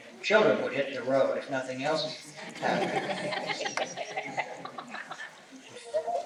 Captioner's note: laughter